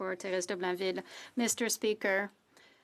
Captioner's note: speaking French